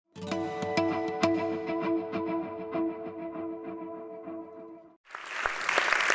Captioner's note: applause